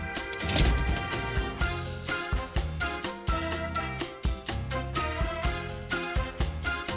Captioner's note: hatch closes